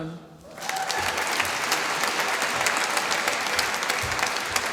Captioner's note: applause